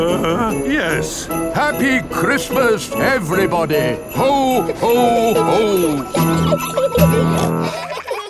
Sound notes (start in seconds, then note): 6.7 children giggling; 6.7 peppa snorts